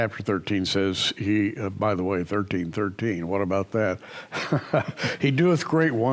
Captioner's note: chuckles